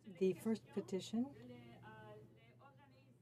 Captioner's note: speaking French